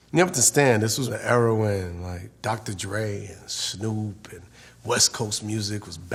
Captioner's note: none